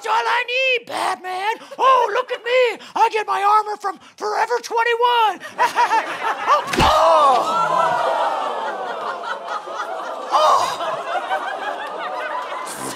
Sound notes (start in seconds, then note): 5.8 laughing